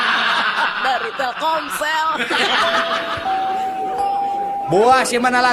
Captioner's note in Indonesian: tertawa